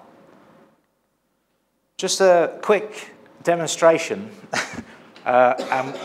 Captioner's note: laughs